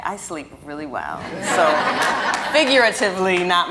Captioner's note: audience laughing